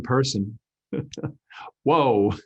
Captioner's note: chuckles